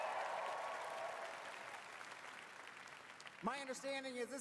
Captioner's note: applause